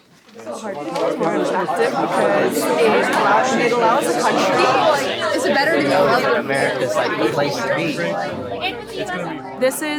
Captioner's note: students talking